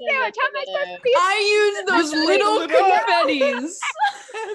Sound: yells incoherently while everyone else laughs; mockingly

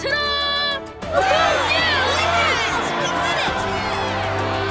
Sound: cheering

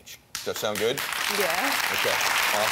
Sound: audience clapping

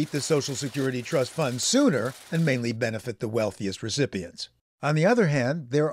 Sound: applause

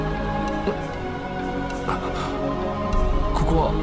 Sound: gasp

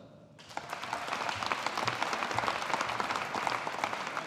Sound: audience applauding

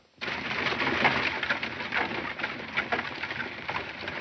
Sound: horses galloping

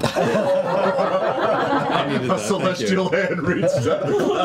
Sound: laughter

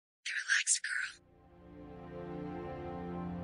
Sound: whispering

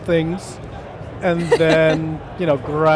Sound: laughs

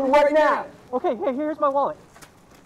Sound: yelling

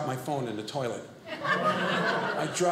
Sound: audience laughing

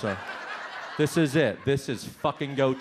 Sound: audience laughs

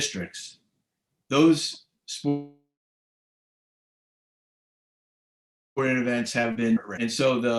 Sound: audio lags

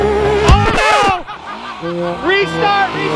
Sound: laughter

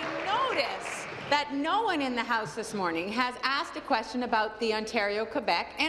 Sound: applause

